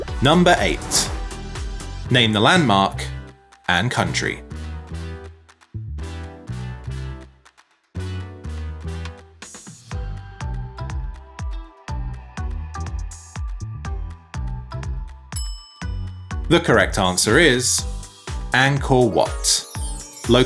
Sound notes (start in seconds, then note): 0.0 upbeat music; 4.7 upbeat music; 15.3 bell clinking